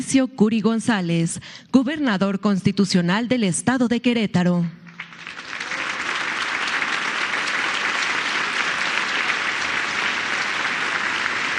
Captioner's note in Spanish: aplausos